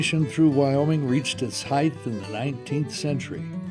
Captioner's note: voiceover